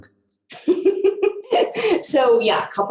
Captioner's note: laughs